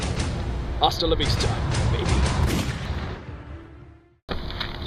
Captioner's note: gunshot; running across pavement